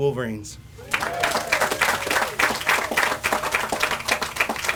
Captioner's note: audience applauds